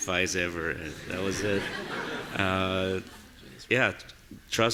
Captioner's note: audience laughing